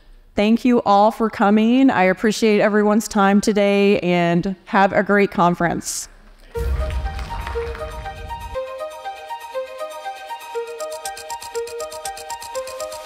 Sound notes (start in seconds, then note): 6.6 audience applauding